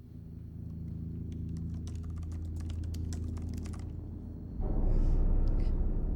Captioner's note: keyboard typing; eerie music